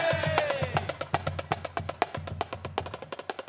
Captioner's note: cheers and applause